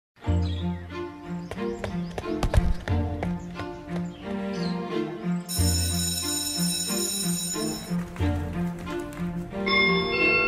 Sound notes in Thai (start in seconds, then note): 2.1 เสียงเท้า; 5.5 เสียงกริ่งโรงเรียน